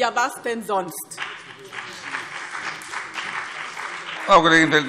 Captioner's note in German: Beifall BÜNDNIS 90/DIE GRÜNEN und CDU